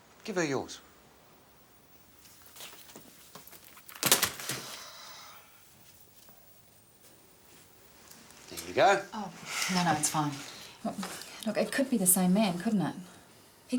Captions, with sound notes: Give her yours. (bag thuds) (Jodie sighs) There you go. - Oh, no, no, it's fine. Look, it could be the same man, couldn't it?